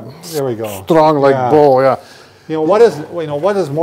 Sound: speaking in affected accent

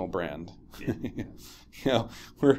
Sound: chuckles

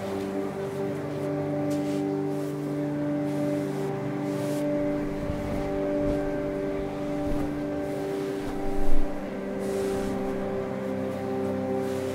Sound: distant congregation chatter

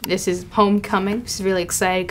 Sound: computer click

